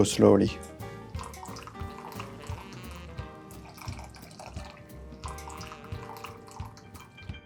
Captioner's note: coffee trickling; light cheerful music